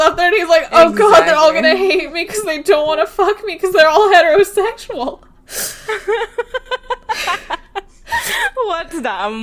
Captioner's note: both laughing